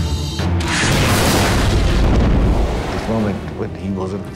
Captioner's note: suspenseful music; explosion booming